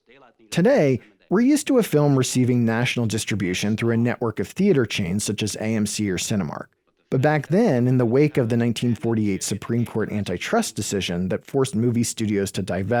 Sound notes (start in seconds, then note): none